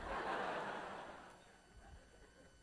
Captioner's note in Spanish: risas clase